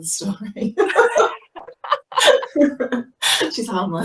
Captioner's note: laughing